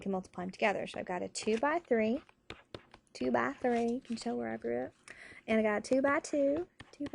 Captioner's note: in a country accent